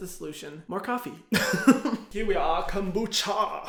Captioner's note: laughs